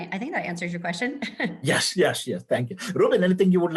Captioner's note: laugh